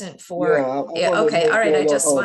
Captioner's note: faintly speaking